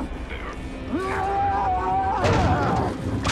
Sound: yelling

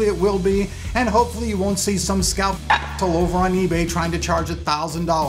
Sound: clicks

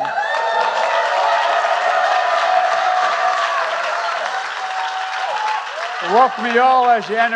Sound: applause

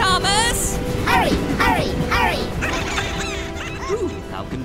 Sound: laughing

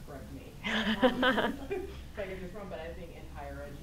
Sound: laughter

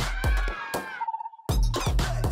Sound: players screaming; upbeat music

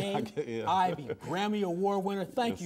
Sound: laughs

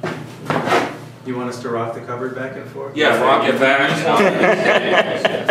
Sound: everyone laughs

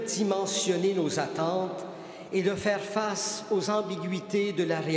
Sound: speaking French

